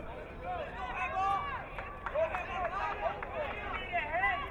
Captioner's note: crowd cheering